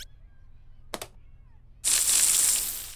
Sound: water squirts

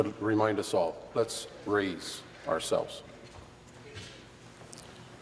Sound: none

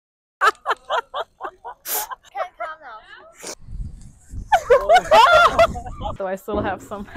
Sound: laughter

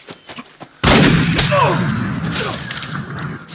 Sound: gunshot and impact sound on target

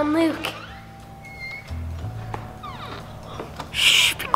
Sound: door creaking

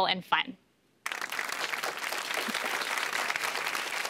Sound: applause

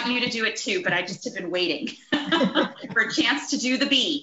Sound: laughs

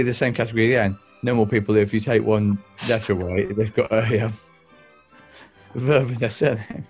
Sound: sniggering

